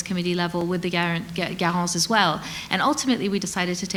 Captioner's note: speaks French